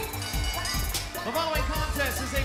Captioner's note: bell ringing